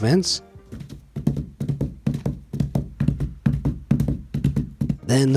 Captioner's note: bricks thuds